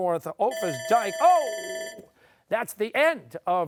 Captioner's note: bell ringing